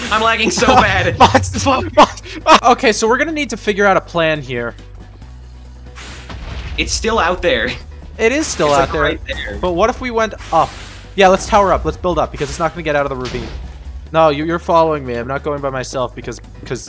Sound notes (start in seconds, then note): 6.2 explosions; 9.2 explosions; 12.4 explosions